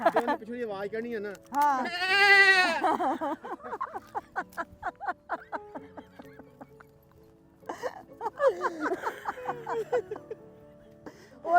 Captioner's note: laughing